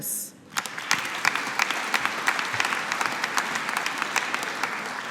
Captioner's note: audience applauding